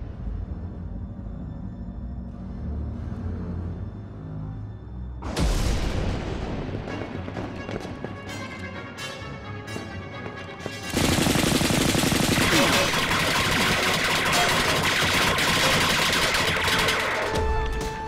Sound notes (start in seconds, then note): 5.3 thundering; 10.8 gunfire